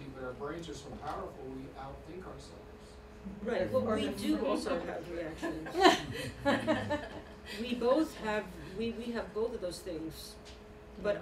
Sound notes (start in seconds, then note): 5.3 laughter